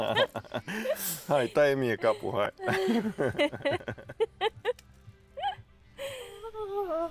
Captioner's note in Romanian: Râsete